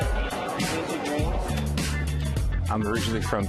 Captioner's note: chatter